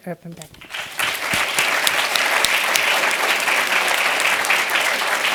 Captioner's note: applause